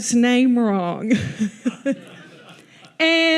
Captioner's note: audience laughs